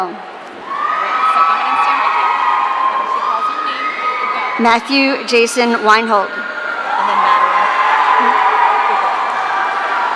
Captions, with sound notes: (audience cheering) Matthew Jason Winehope. (audience cheering)